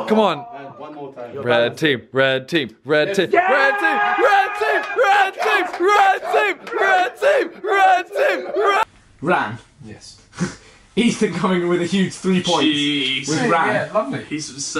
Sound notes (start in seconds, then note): 2.6 slapping hand